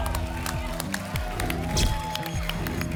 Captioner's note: applause and cheering